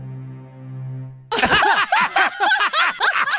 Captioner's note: laughter